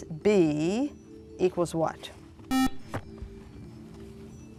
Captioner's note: buzzer